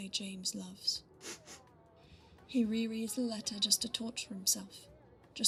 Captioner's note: Regulus sniffles